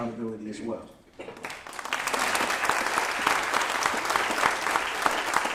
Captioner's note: applause